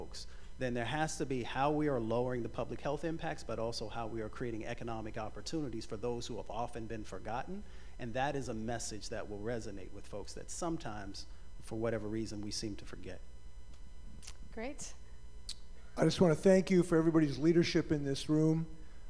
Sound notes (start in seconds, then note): none